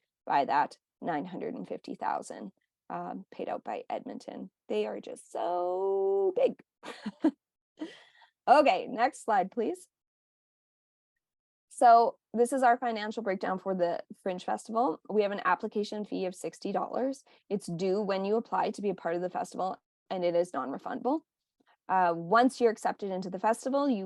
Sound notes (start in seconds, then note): 6.8 chuckling